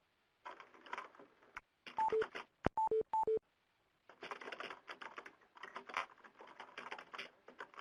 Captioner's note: beeps as people hang up and leave conference call